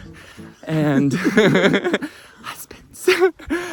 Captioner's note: laughing